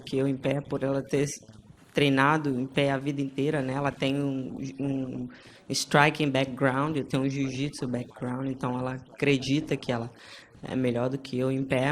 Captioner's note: speaking foreign language